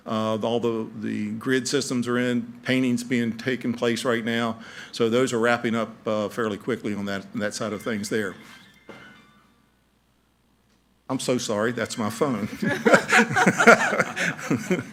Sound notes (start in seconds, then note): 7.7 phone ringing; 12.5 laughing